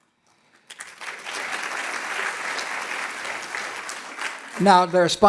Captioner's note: audience clapping